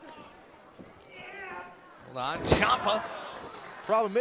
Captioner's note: crowd chatter